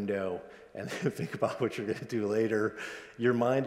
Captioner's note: laughs